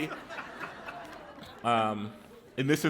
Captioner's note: laughter